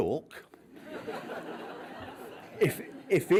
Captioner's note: laughs